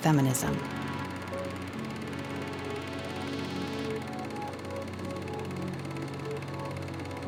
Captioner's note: film reel whirs